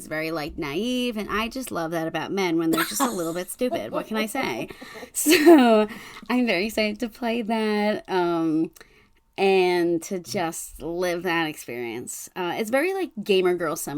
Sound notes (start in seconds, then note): 2.7 laughing